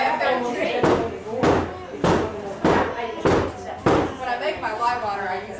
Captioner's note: banging